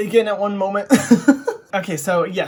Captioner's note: laughs